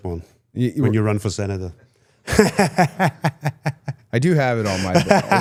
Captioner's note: laughs